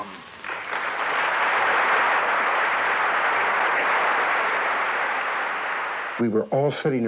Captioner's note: applause